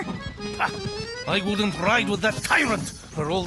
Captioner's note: scoffs